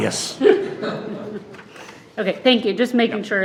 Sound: all laughing

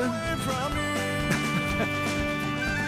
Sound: laughs

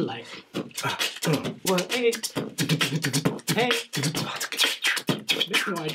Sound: Mr. Max and Mr. Root beatboxing fast

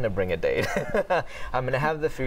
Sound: laughter

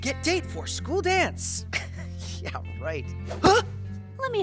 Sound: laughs

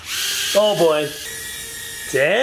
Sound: drone buzzes

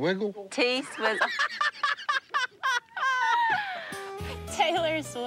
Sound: laughter

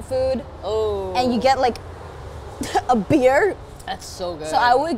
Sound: scoffs

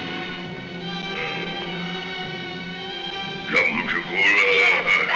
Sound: speaking in a foreign language

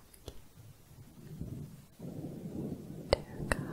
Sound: windy sounds

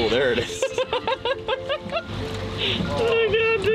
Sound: laughing

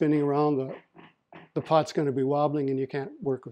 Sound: chair rattles

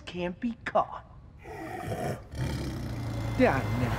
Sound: snarling

